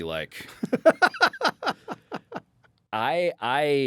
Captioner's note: laughs